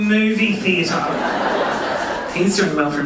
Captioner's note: audience laughing